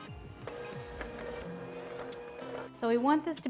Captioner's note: blender whirring